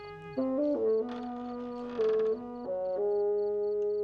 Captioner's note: creaking